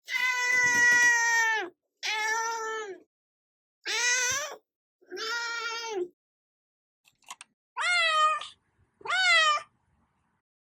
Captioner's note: random cat noise